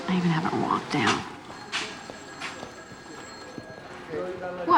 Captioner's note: phone ringing